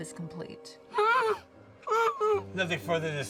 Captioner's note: Eleanor yelping